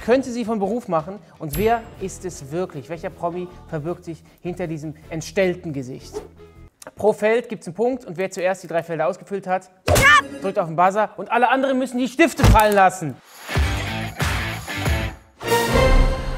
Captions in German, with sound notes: Welcher Promi verbirgt sich hinter diesem entstellten Gesicht? Pro Feld gibt's 'nen Punkt, wer zuerst alle drei ausgefüllt hat, (Schrei) drückt auf 'n Buzzer. Alle anderen müssen die Stifte fallenlassen. (Rockige Musik)